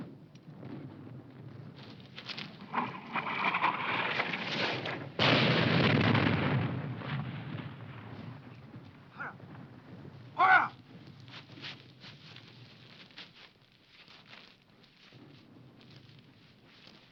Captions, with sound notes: (wind rustling) (bomb exploding) - Ohhara. Ohhara!